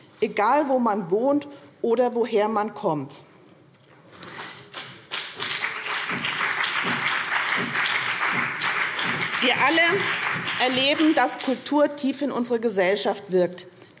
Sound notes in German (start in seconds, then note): 4.3 Beifall BÜNDNIS 90/DIE GRÜNEN und vereinzelt CDU